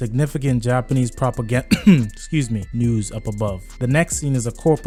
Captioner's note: cough